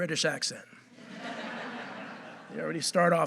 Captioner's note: audience laughing